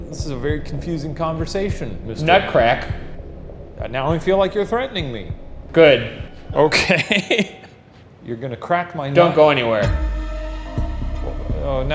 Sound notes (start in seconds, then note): 6.7 laughs; 9.8 dramatic music intensifies